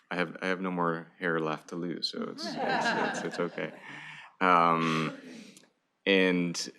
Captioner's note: laughter